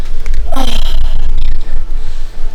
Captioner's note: sighs